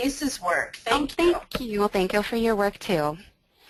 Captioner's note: voiceover